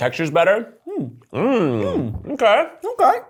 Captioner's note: both humming